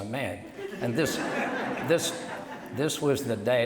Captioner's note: audience laughs